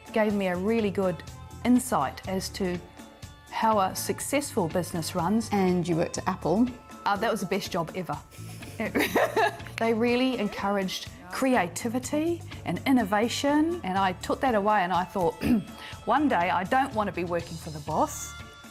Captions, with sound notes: Gave me a really good insight as to how a successful business runs. And you worked at Apple? That was the best job ever (laughing). They really encouraged creativity and innovation, and I took that away, and I thought (clearing throat), one day I don't want to be working for the boss.